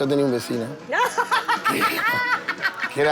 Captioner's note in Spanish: Ríe